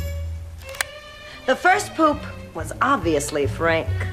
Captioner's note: none